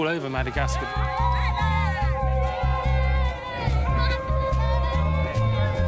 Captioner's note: children screaming